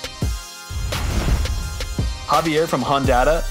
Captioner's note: whooshing sound effect